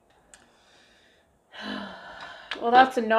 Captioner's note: annoyed sigh